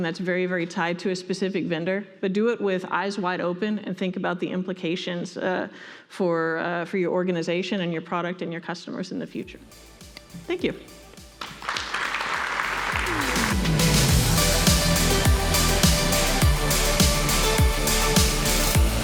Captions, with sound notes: that's very tied to a specific vendor. But do it with eyes wide open and think about the implications - for your organisation and your product, and your customers in the future. Thank you! [Audience applauding] [Electronic music playing]